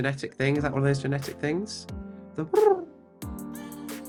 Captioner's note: makes cooing noise